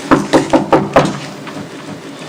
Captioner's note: knock on door